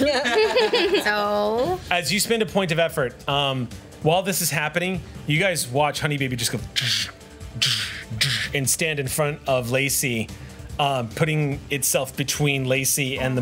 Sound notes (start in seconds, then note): 0.0 laughs; 7.5 mouth sound affects